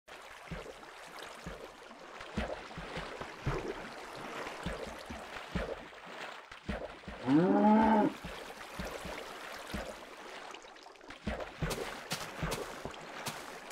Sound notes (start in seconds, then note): 0.0 water flow noises; 4.4 splashing noises